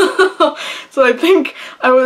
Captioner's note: laughing